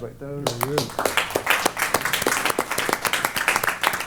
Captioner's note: applause